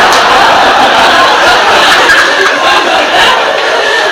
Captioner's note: audience laughs